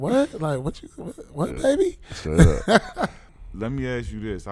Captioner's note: laughing